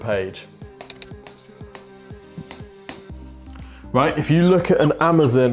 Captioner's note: marker tapping